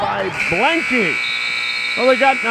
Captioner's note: buzzer sounds